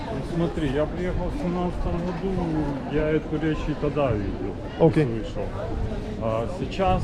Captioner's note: many people speaking Russian language